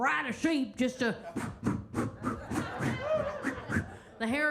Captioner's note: Kentucky Lightning blows air rapidly